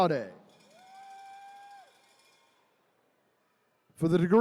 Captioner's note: attendees cheering